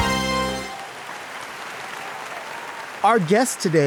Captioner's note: audience applauds